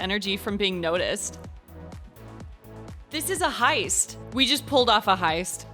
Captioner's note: none